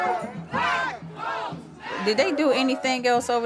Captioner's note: chanting